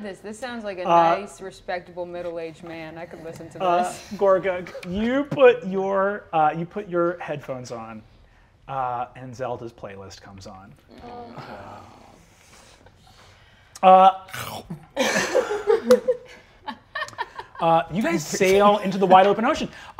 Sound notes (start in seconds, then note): 10.9 players groan sadly; 14.2 mimics munching; 14.9 players laughing